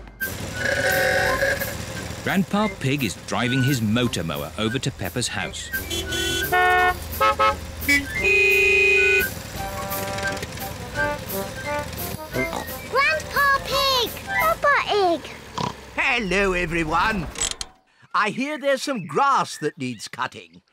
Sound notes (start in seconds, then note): 0.5 horn bellows; 6.0 horns honk; 12.2 snorts; 15.5 snorts